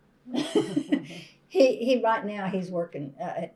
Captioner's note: laughter